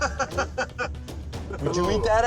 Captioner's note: laughing